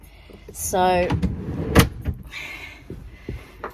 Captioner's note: drawer sides loudly and bangs shut